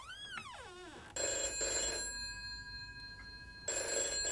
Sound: phone ringing

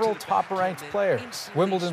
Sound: cheers and Applause

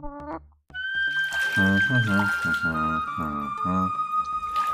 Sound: humming

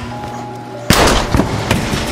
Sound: gunshot

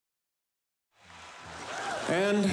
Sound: audience cheering

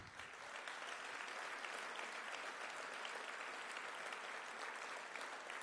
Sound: applause

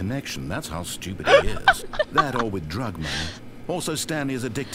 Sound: laughs

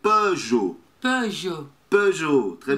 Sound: brazilian pronunciation

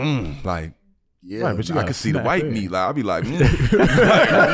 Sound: groans; laughing; groans

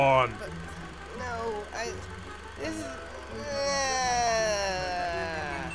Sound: violated Whining

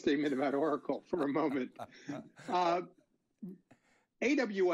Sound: laughing

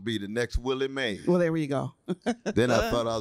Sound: laughter

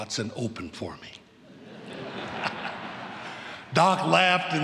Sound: laughter

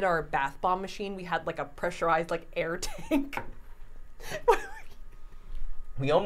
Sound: laughing

